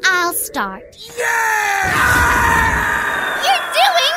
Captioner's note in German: Schreie